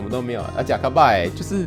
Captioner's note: Taiwanese